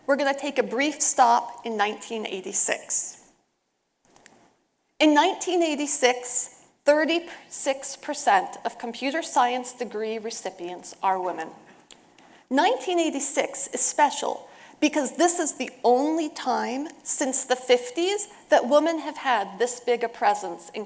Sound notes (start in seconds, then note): none